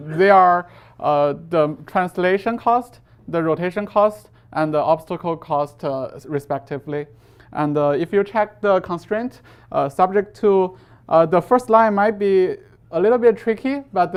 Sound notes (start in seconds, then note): none